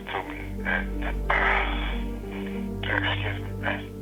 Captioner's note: sighs